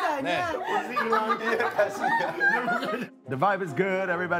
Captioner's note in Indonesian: Ketawa